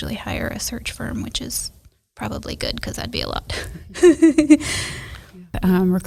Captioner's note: laughs